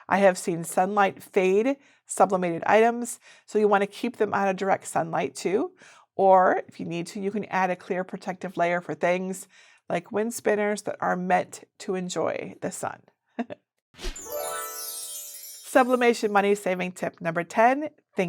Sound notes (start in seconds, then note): 13.4 chuckles; 14.1 whimsical music